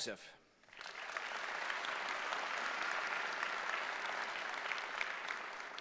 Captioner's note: applause